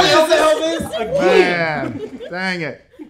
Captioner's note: group cheering